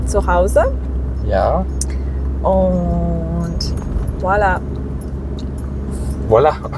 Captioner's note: French